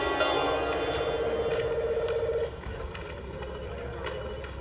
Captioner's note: phone ringing